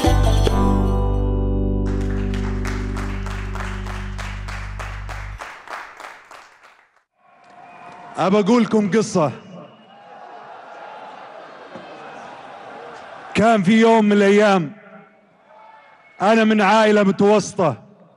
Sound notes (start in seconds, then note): 1.8 clapping; 7.2 audience Cheering